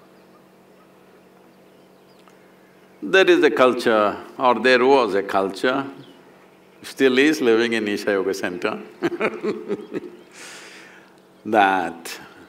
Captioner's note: laughs